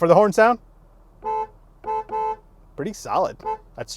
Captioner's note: car honking